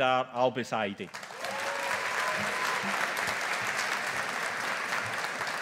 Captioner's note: audience applauding